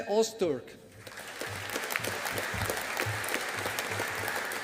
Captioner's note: audience applauding